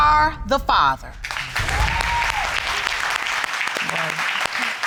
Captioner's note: audience applauding